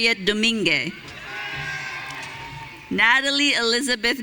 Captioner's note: audience cheering